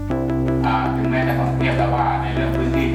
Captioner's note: speaking thai